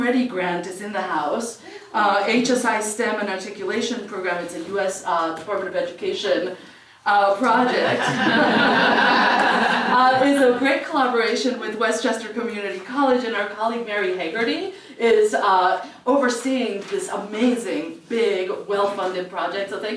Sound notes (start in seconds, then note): 7.7 laugh